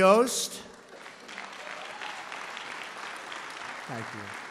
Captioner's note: applause